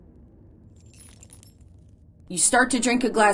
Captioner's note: bullets chime